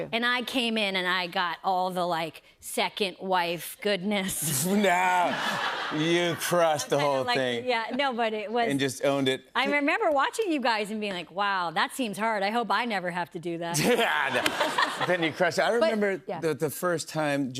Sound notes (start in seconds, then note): 5.0 laughter; 13.7 laughter